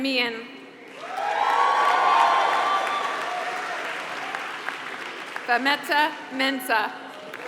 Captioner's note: applause